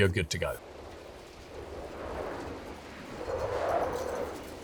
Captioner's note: wind whooshing